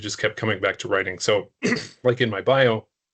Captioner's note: clearing throat